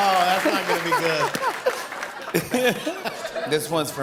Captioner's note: laughter and applause